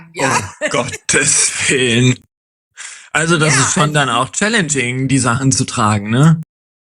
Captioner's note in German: gelächter